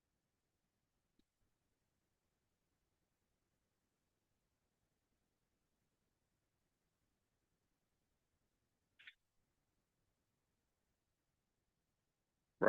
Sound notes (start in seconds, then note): 1.7 silence